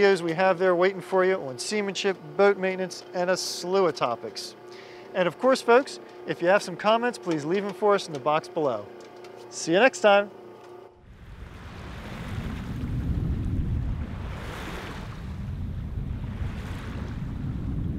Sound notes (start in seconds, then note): 10.5 waves sounds